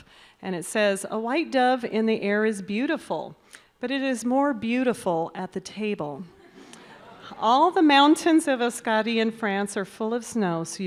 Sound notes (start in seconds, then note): 6.4 audience laughs